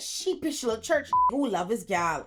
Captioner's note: beep